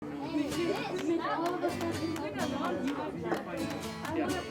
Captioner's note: students chattering